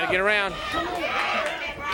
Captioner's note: crowd chatter